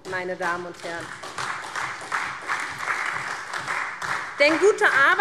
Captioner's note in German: Beifall SPD